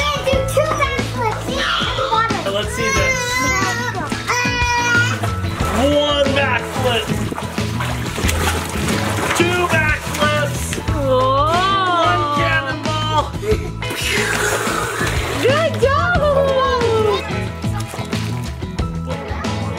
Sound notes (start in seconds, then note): 2.8 crying